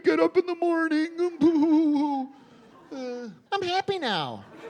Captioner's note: sobbing